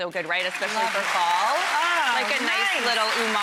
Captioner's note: audience applauds